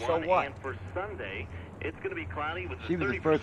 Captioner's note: man, on radio